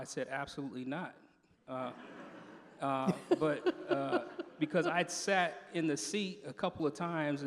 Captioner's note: laughter